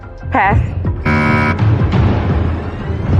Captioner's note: buzzer sounds